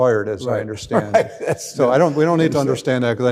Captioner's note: laughing